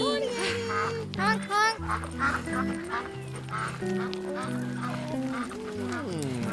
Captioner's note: geese honking; lips smacking